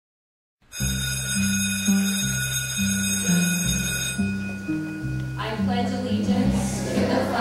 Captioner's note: bell rings